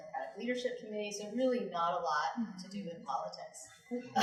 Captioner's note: chuckles